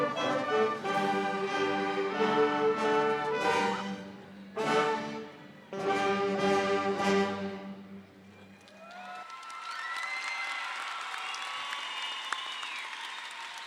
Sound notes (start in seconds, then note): 8.3 crowd applauds